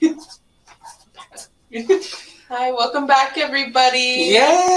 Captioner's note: chuckles